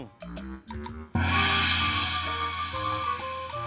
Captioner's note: clanging